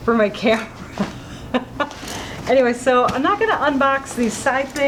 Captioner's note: laughing